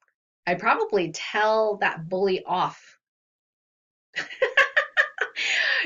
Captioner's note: laughs